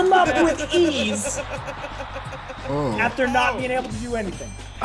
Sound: laugh

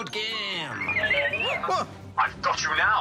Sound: beeping

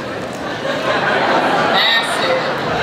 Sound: audience laughs

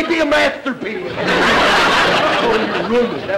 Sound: audience laughter

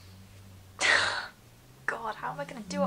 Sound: sighs

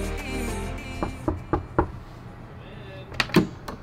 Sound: knocking

